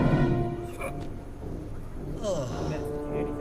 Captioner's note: coughs; sighs